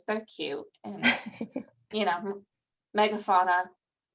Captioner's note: laughing